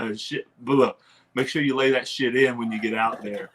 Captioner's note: clears throat